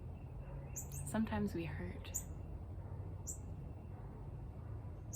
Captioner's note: cardinal chirping